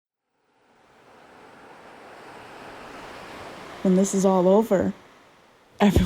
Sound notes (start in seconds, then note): 0.3 rushing water